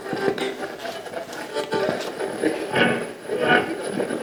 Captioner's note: radio channel changing